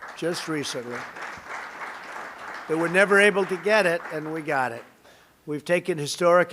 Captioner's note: applause